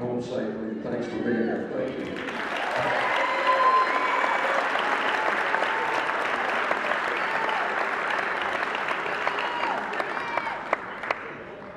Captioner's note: cheering